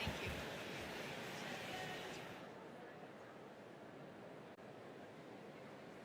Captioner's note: crowd chattering